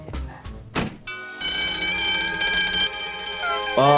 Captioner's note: spy music; bell ringing